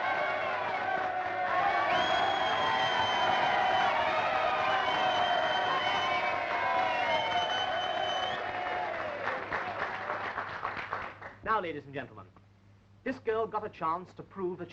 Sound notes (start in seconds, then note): 5.0 whistling